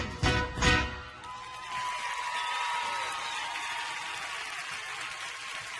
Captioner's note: audience cheering and applauding